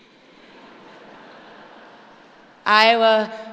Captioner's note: audience laughing